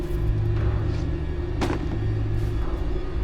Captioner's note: book thuds